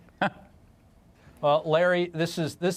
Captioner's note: laughter